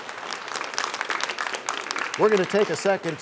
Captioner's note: applause